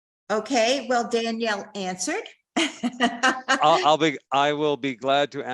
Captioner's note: chuckles